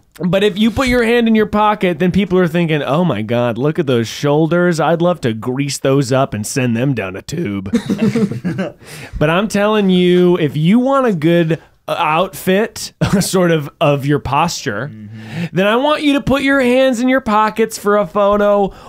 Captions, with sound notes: But if you put your hand in your pocket, then people are thinking, “oh my god, look at those shoulders.” “I’d love to grease those up and send them down a tube.” (laughing) But I’m telling you. If you want a good outfit, sort of…of your posture, then I want you to put your hands in your pockets for a photo